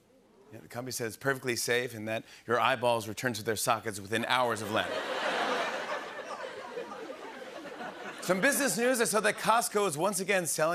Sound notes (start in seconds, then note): 4.6 laughter